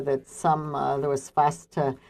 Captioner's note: speaking French